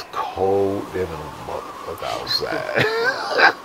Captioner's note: wind whistling